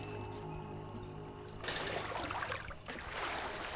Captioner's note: pool gate clanging; tense music